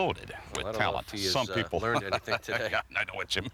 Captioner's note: laugh